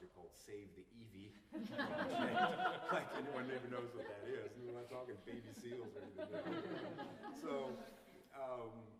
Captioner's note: laughter